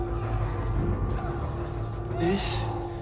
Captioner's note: foreboding music; voices wailing